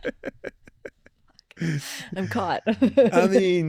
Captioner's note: both laughing